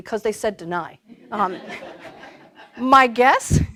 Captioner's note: laughter